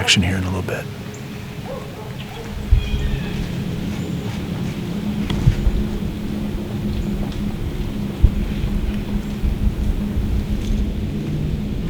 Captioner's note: sound of light wind, birds calling